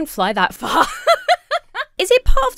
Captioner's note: laughs